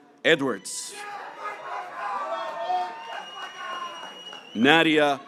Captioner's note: graduates cheering